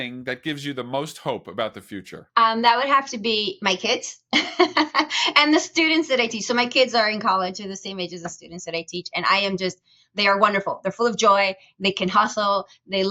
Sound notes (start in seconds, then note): 4.7 chuckling